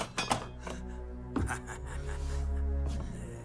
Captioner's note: he sniggers